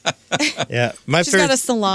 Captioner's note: laughing